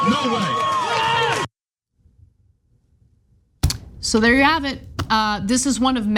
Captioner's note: applause